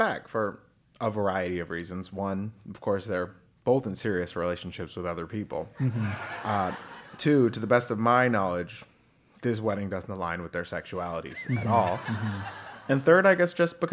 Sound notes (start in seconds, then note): 5.8 laugh; 11.4 laugh